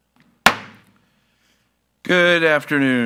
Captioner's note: gavel thuds